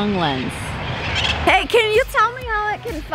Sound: birds chirping

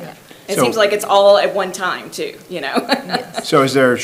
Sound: laughs

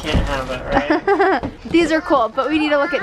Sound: laughs

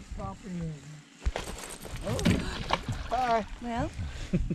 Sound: fish thrashing and splashing

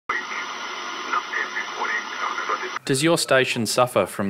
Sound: radio plays

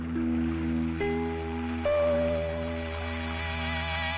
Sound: water flowing

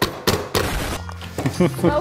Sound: hand banging; bomb exploding; laughs

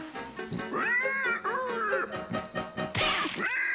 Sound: rolo grunting

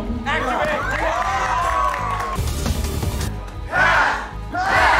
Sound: attendees cheering

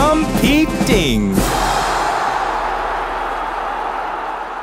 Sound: crowd cheering

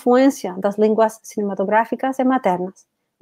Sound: speaks portuguese

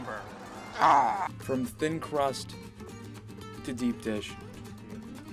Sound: grunts

